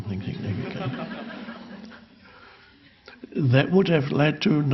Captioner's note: audience laughing